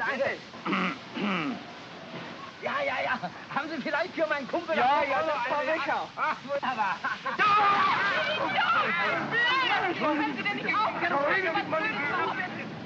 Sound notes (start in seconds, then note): 1.1 clears throat; 2.6 speaking in German; 7.3 yelling & commotion